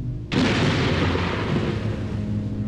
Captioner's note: thunder clap